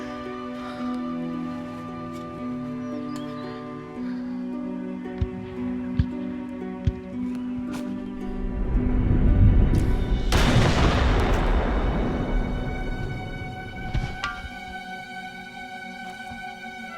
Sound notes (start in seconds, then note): 1.4 gasping; 10.3 gun shot